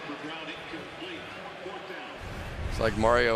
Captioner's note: pa announcement